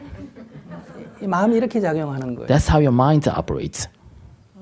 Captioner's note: audience Laughter